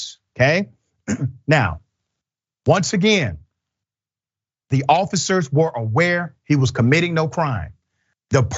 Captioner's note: cough